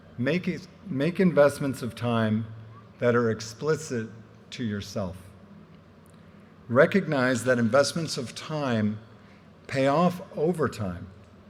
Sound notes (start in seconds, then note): none